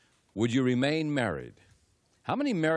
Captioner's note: none